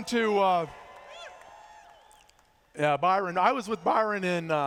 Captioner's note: cheers